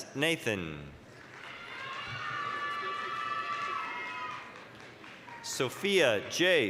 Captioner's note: applause, cheering